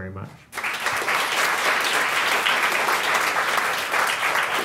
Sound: audience clapping

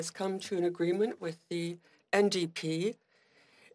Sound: speaking French

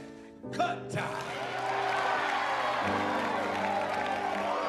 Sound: audience cheers

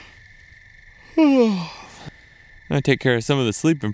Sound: yawning

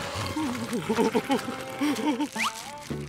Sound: growling; whimpering

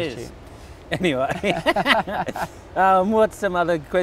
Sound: laughs

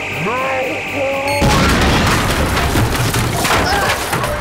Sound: explosion

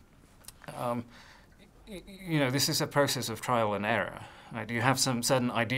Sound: sighs

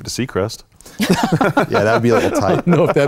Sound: laughter

